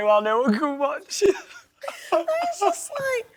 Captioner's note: laughs